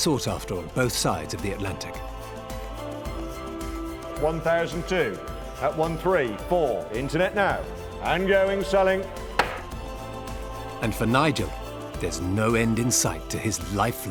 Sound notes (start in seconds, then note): 9.4 gavel knocks